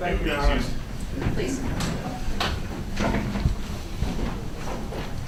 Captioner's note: audience chatters